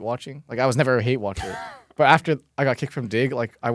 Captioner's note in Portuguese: risos